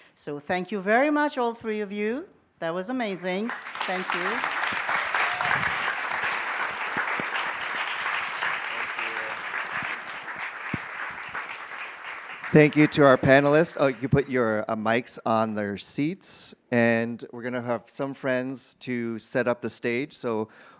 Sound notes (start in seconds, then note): 4.5 applause, cheers; 9.4 applause continues